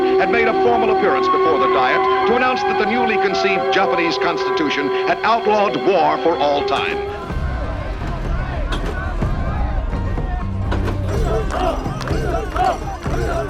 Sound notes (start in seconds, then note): 7.5 bright upbeat music; 7.5 crowd chanting